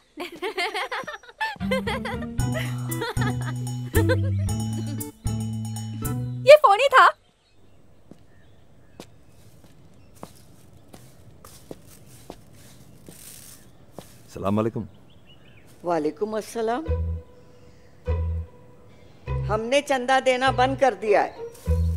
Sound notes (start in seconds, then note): 0.2 Laughs; 8.9 Footsteps